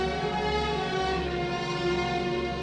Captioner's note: none